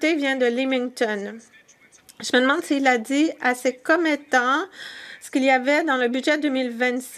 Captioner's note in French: voix de l'interprète